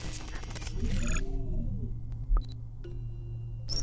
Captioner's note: electric Chirping